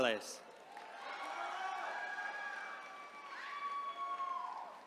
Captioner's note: attendees cheering